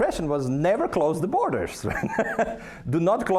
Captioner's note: laughing